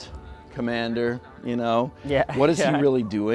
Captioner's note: laughs